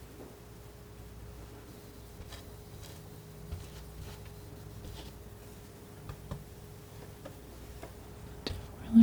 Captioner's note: tapping